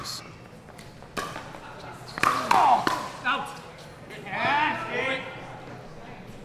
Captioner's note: players grunting; ball being smacked